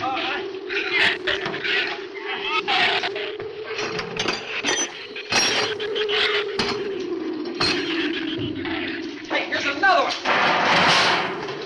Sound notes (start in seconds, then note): 2.5 shrews snarl; 2.5 wind howls